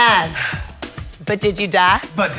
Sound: sighs

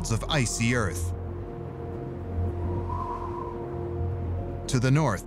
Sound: wind howling

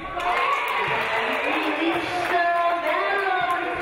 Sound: audience cheering

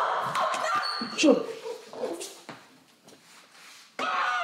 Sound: Alli groaning

